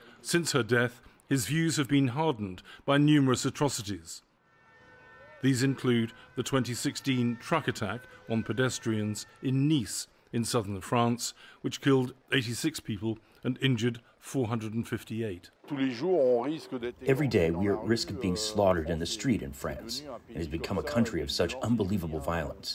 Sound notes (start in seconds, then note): 16.0 through translator